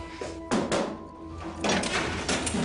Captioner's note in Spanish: Toques en la puerta